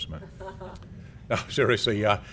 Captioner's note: laugh